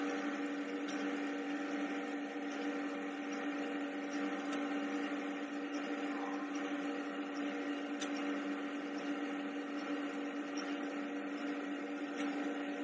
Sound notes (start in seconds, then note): 3.7 mixing sounds